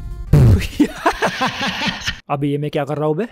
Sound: extreme laughing

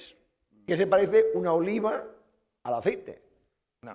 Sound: speaking spanish

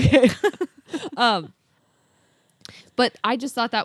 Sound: laughs

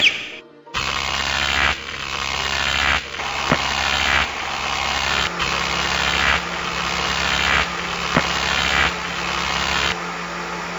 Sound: electric noises

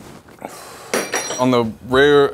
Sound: spoon clatters

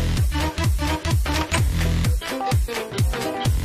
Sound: door opens

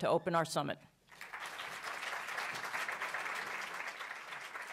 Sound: audience applauds

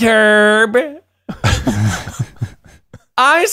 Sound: laughing

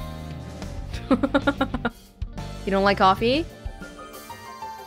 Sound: chuckles

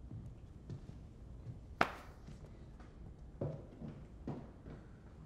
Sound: hand patting

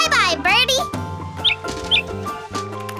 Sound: squeaking

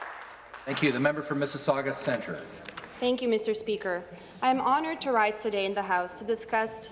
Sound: some Applause

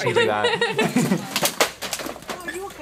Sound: both laugh

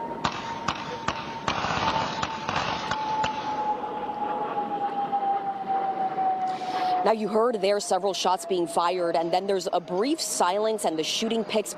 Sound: sound of gunfire

